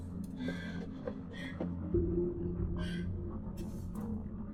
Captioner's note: gasping